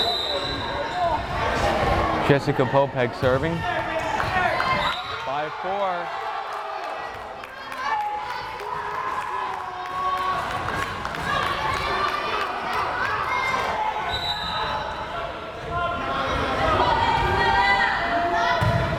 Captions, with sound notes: (whistle blares) Jessica Popek serving. 5-4! (crowd cheering) (whistle blares)